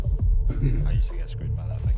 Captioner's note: ahem, khm khm